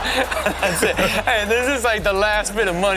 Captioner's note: laughs